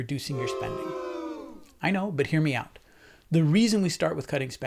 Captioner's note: boo sound